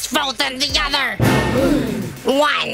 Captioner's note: gasp